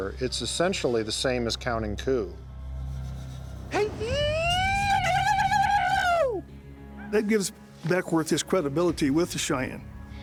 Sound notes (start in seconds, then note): 3.7 war cry